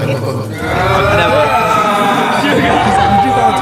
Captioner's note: ahhh